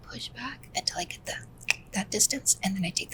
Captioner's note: clicks mouth